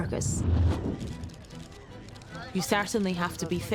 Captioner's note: cameras clicking and paparazzi speaking indistinctly